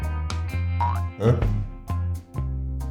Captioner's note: boink